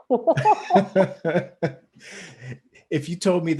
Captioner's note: both laugh